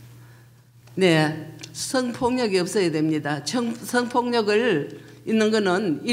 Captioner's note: speaking foreign language